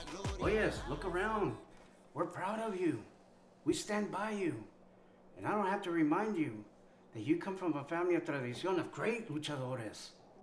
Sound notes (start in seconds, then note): 0.2 Spanish; 7.8 Spanish